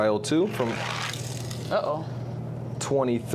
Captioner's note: toy car grating